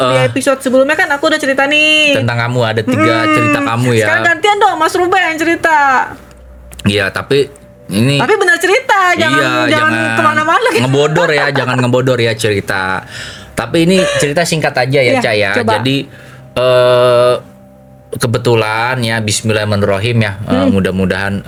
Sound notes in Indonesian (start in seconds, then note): 13.8 tertawa; 13.9 terkesiap